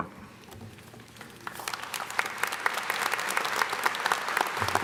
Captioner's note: applause